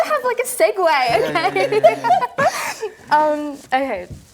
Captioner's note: laughter